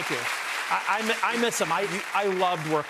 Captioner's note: applause